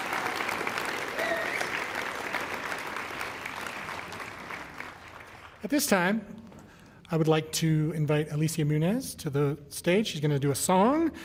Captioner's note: applause